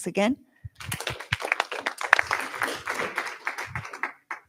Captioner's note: applause